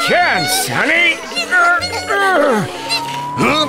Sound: Tayo shrieks anxiously

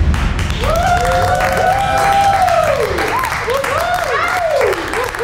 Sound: audience cheering and clapping

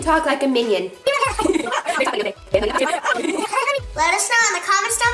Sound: speaks in Minion

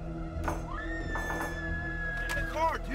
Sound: woman screaming

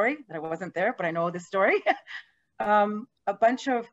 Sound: laughing

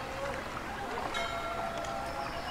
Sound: temple bells ringing distantly

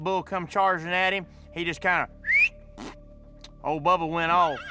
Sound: whistling

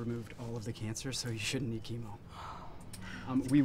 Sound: mom sighs

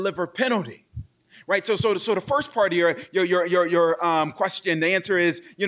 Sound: stammers

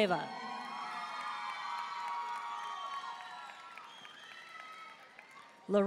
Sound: audience cheering and applauding

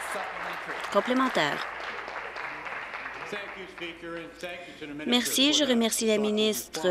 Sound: applause

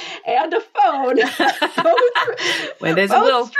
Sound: laughing

